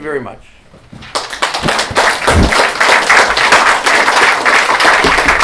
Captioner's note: applause